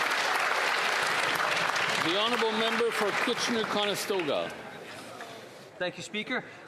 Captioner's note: some Applause